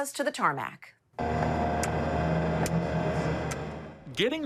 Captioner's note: engine humming